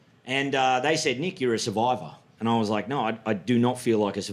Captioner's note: none